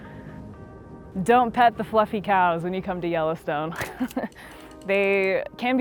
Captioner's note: laughs